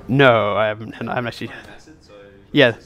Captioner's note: voiceover